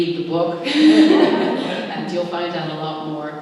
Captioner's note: laughter